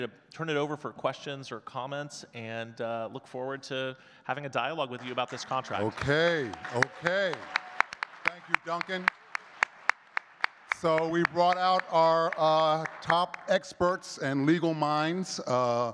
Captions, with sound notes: to turn it over for questions or comments, and look forward to having a dialogue with you about this contract. - Okay, okay, thank you, Duncan. (audience clapping) So we brought out our top experts and legal minds